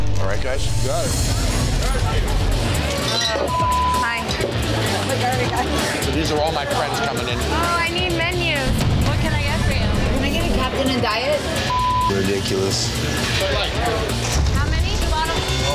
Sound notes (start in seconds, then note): 3.2 beep; 11.6 beep